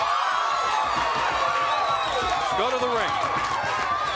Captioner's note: crowd cheering